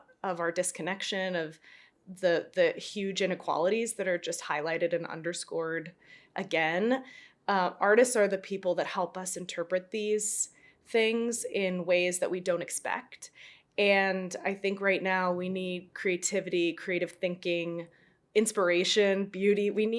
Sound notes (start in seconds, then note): none